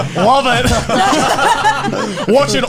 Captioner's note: all laughing